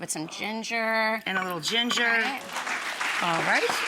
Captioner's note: audience applauding